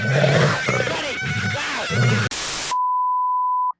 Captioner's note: growling; screaming